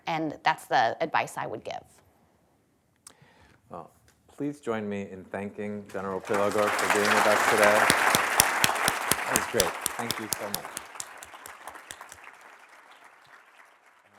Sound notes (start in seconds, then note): 8.6 applause